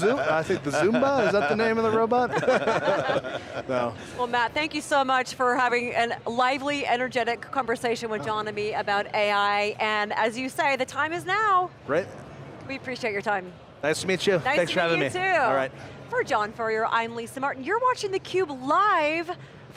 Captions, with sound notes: >> The zumba, is that the name of the robot? (all laugh) >> Matt, thank you so much for having a lively energetic conversation with John and me about AI. And as you say, the time is now. >> Right. >> We appreciate your time. >> Nice to meet you. Thanks for having me >> Nice to meet you too. >> All right. >> For John Furrier, I'm Lisa Martin. You're watching the Cube live